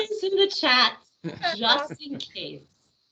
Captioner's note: laughing